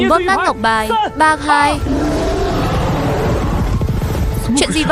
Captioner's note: la hét